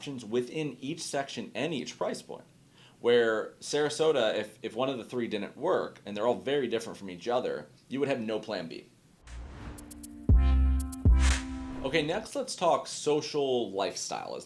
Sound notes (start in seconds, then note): 9.2 graphic swooshing; 9.2 chill instrumental music